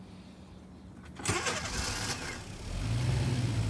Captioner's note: engine revs